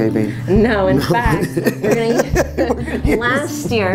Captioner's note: laughs